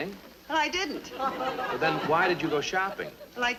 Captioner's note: people laughing